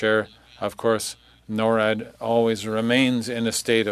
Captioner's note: speaking French